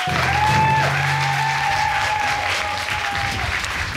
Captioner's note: cheering and applauding